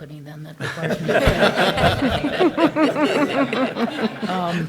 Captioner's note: attendees laughing